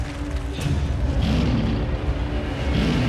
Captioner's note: lion roaring